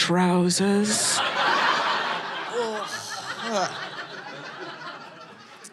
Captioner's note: audience laughing